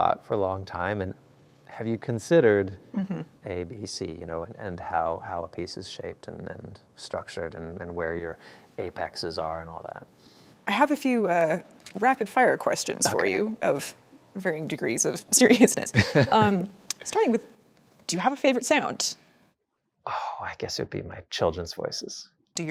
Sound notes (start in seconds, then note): 16.0 laughs